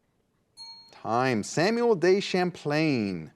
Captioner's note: bell dings